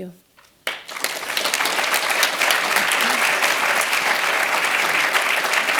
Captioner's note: applause